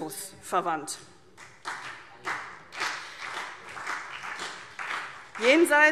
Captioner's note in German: Vereinzelter Beifall CDU und BÜNDNIS 90/DIE GRÜNEN